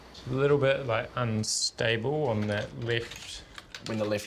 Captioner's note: desktop keys tap